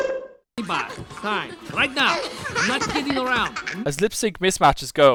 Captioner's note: Agnes giggling in background